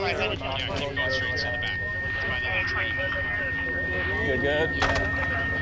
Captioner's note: beeping